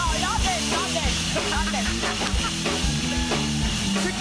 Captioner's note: cheers and applause; laughs